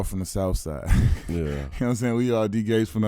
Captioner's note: chuckling